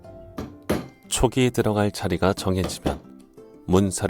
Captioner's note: hammering sound